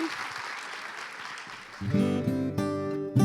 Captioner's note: cheers and applause